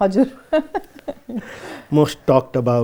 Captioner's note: laughs